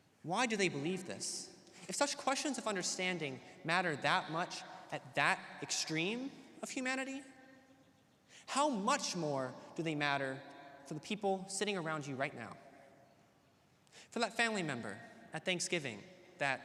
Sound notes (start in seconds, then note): none